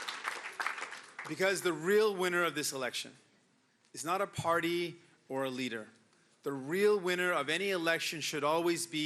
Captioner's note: cheering and Applause